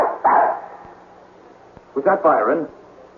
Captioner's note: barking